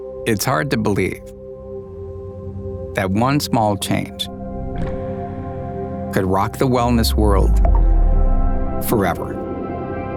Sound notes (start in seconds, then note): 0.0 calm music; 4.9 droplet echoing